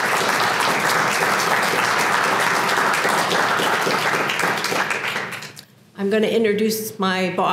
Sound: applause

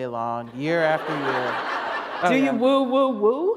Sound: laughter

